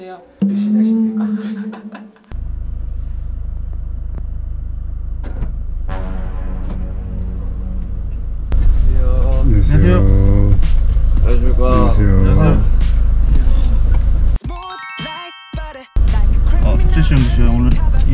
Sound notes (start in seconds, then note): 1.1 hahaha; 5.0 door opening